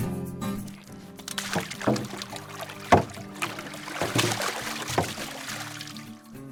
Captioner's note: water splash